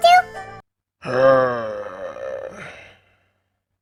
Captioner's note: Orca sighs